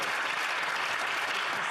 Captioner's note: some Applause